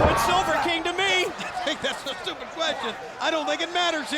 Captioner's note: laugh